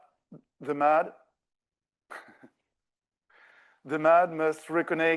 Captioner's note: laughs